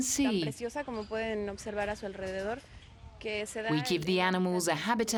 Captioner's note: speaking foreign language